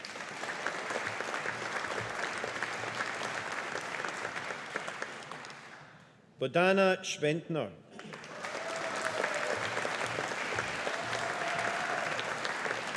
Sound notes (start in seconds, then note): 0.0 audience applauding; 8.0 audience applauding